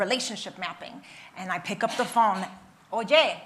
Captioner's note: attendee coughing; speaks in Spanish